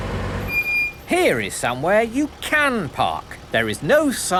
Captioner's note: car engine starting; breaks squeaking